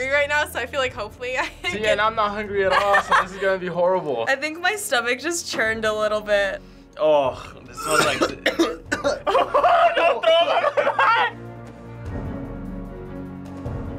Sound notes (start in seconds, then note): 7.3 coughing; 9.1 laughing